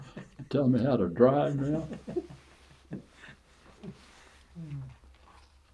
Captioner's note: laughter